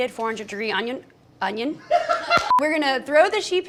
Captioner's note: laughter